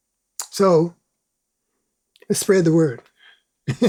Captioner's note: laughs